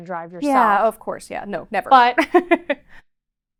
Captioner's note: chuckles